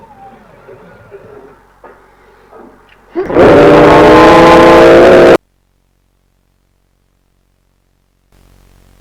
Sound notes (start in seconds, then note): 3.2 NIGHTWING grunts and ZUCCO roars as he plunges the silver blade into his heart